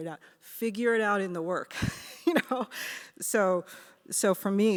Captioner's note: laughs